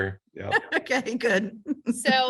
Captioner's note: laughs